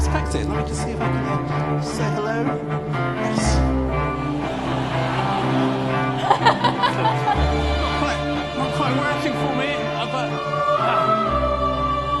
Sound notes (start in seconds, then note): 4.4 laughter